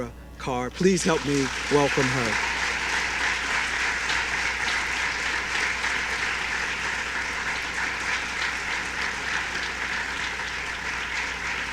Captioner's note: applause